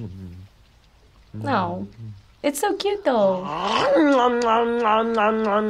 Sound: voice-over

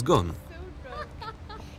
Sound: laughing

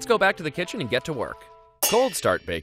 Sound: pans clanging

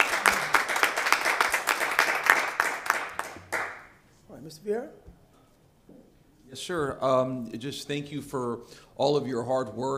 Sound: applause

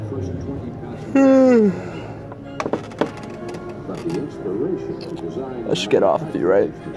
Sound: yawning

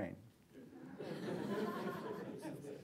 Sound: laughter

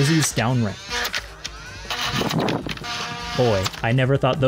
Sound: flywheel mastication, flying glizzy noises

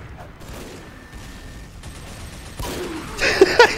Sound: guns firing; laughing

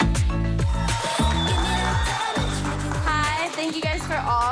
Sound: crowd cheering

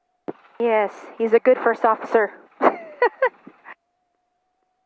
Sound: chuckles

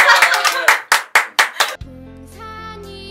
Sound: clapping

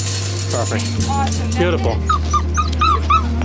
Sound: clang; puppy whines

